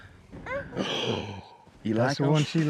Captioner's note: gasp